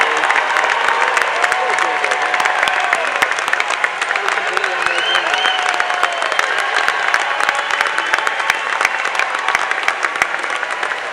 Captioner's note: applause